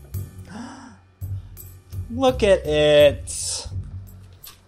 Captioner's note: gasps